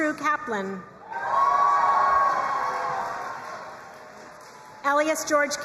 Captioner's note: crowd cheering and applauding